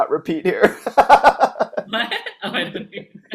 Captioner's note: laughing